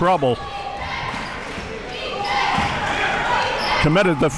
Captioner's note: crowd chanting defense